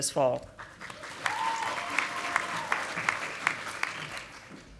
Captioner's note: audience applauding